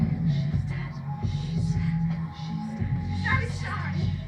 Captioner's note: overlapping whispers of "She's dead"